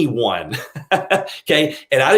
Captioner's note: laughing